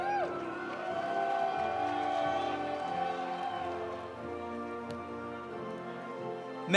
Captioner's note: audience cheering; audience applauding